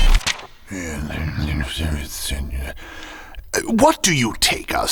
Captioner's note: whooshes back to present; sounds of pages turning; grumbling